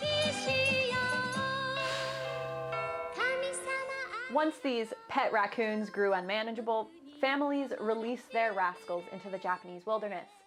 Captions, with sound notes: [long, exasperated sigh with cheery Japanese singing overtop] Once these pet raccoons grew unmanageable, families released their rascals into the Japanese wilderness,